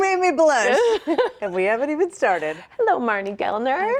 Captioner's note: laughing